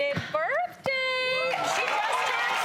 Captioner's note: audience applauds and cheers